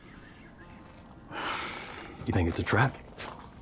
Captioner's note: sighs